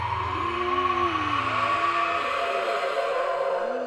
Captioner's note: screams